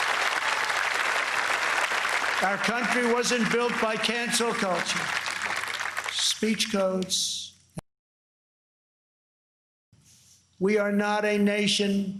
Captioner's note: applause